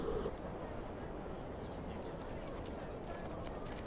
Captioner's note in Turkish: Rüzgâr esiyor